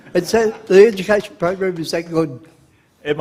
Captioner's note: laughter